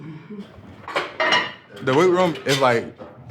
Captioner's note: weights clanking